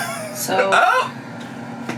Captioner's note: laughs